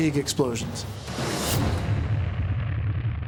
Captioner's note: explosion